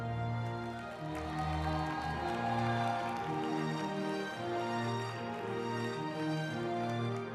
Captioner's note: uplifting music; group applauding